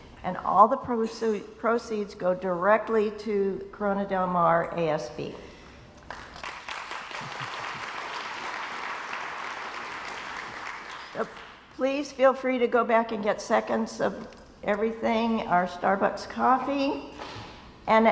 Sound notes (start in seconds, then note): 6.0 crowd applauds